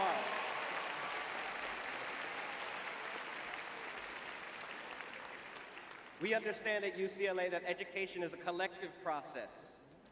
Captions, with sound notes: are. [cheering] [applause] We understand at UCLA that education is a collective process.